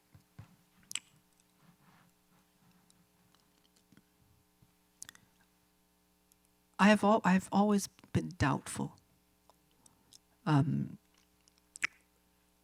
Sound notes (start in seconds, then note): none